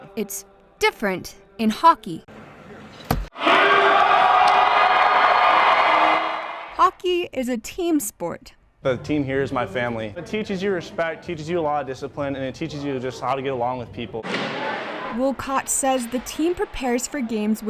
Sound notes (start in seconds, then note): 3.3 crowd cheering